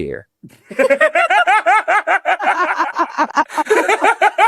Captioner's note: everyone Laughing